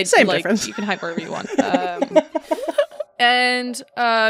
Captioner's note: giggles from the group